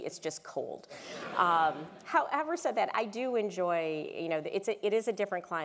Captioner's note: laugh